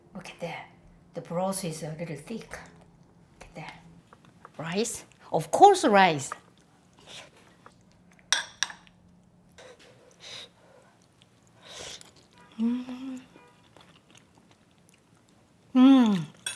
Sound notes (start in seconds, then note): 9.9 blowing; 11.7 slurps